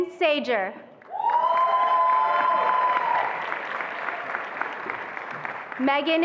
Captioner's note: attendees applauding and cheering